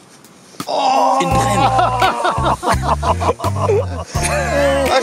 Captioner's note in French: rires